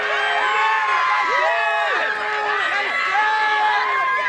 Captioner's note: applause